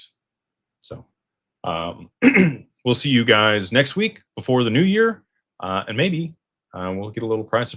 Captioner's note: clears throat